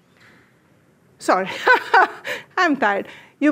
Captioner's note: laughs